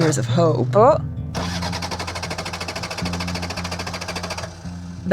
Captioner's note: starting revving loudly